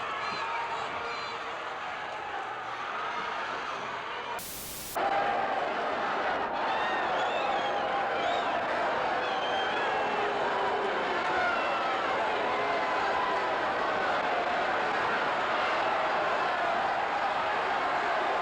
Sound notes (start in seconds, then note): 4.4 static crackles; 5.8 crowd cheering